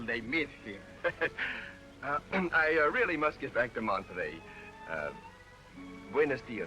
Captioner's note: laughs